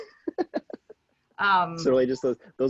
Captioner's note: laughing